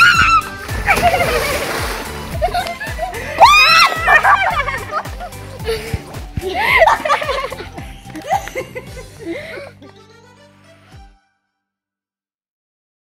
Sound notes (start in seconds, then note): 0.0 screams; 0.1 splash; 3.3 screams; 5.0 laughing